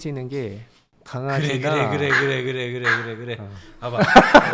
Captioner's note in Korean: 왕 왕